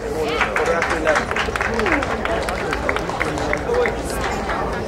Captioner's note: crowd applauding